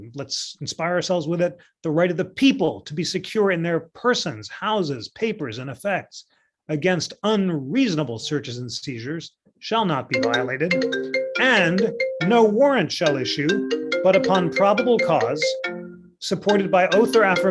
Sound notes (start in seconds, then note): 10.1 phone ringing